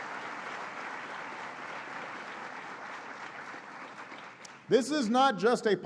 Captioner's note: applause